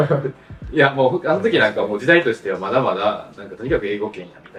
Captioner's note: laughs